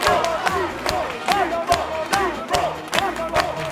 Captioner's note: applause and chants; happy music